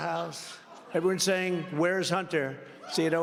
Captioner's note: laughter